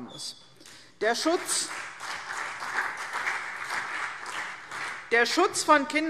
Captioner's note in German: Beifall CDU und BÜNDNIS 90/DIE GRÜNEN